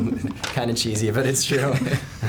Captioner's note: laughing